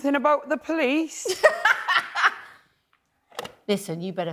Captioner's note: laughs